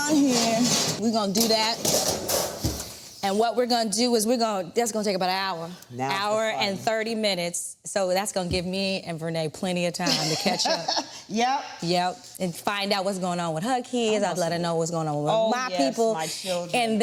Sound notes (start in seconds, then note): 0.0 rack clanging; 2.0 door thuds; 10.1 Vernee laughs